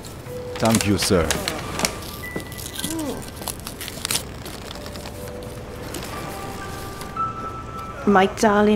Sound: sound of the letter being opened

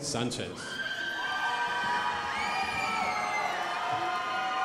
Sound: crowd applauding

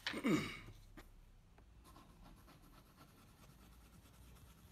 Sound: clearing throat

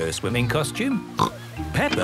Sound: snorts

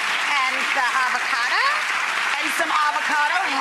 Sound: audience claps

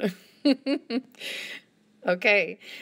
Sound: laughter

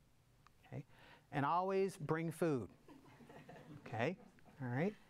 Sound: audience laughs

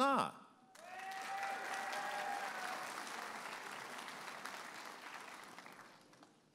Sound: audience applauding and cheering

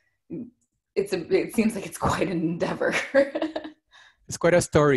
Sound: giggles

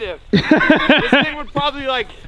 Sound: laughs

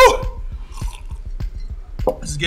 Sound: slurps the milk

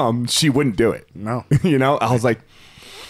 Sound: inhaling deeply

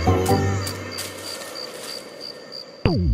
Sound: crickets

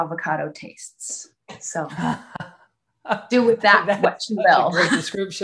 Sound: laughs

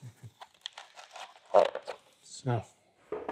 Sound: creaking

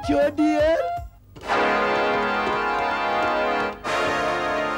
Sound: keyboard clacking

